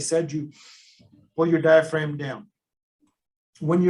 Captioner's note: inhales